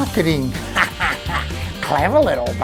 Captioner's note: laughs